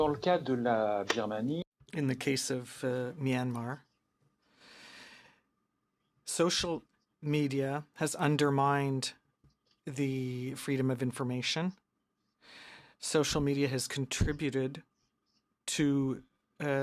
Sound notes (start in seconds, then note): 4.6 speaking in french